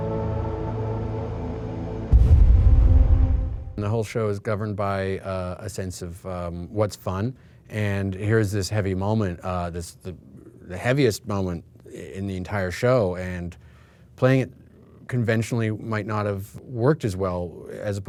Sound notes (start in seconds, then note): 2.0 screen booming